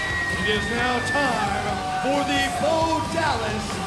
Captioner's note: bell ringing